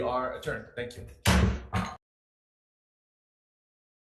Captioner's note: gavel bangs